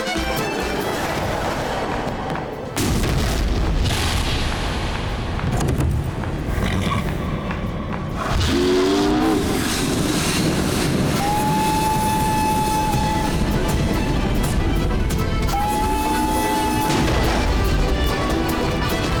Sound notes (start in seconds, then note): 8.3 train whistles blowing; 15.4 train whistle blowing; 19.0 upbeat Scottish music